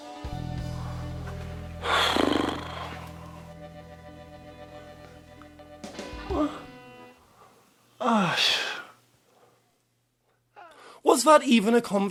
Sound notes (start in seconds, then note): 6.7 sighs